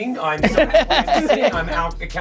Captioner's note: laughs